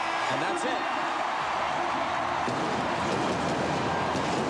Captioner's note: cheering and applause